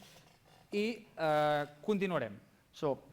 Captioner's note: non-english speech